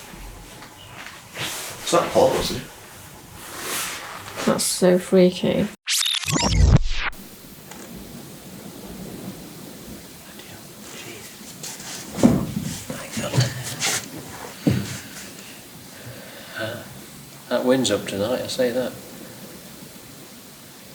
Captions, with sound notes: That's so freaky! [Gales in the background] Bloody hell! That winds up tonight I say that.